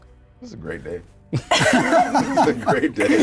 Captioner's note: players laughing